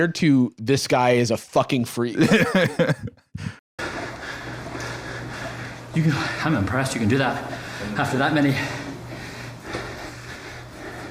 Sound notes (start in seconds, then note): 2.2 laughs; 5.9 panting